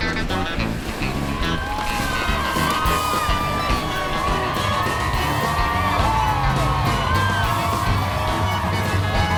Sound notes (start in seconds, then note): 1.8 crowd cheering